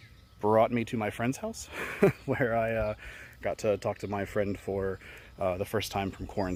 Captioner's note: chuckle